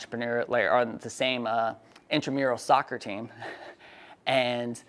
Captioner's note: laughs